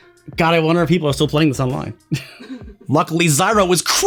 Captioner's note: chuckles